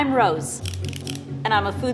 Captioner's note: pointer retracting and extending